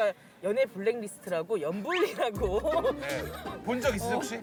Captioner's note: burst into laugh